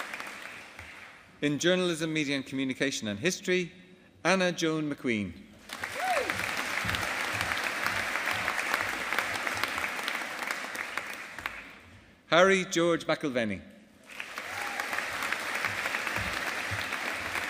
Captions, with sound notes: In Journalism, Media and Communication and History, Anna Joan MacQueen. (AUDIENCE APPLAUDING) Harry George McIlvenny. (AUDIENCE APPLAUDING)